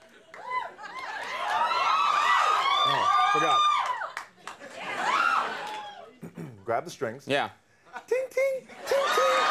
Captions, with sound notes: (crowd cheering) Oh, forgot. Grab the strings, Yeah. Ting-ting, ting-ting.